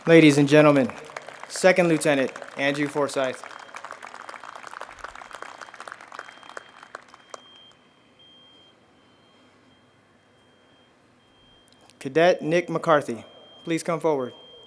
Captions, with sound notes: Ladies and Gentlemen, Second-Lieutenant Andrew Forsyth! (audience applauds) Cadet Nick McCarthy, please come forward.